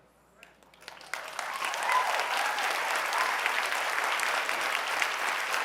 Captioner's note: audience applauding